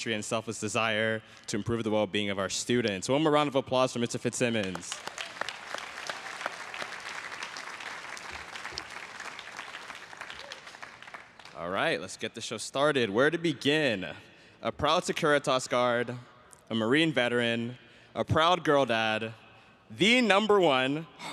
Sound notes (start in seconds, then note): 6.3 everyone cheering and applauding